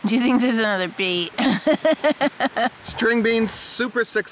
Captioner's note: laughing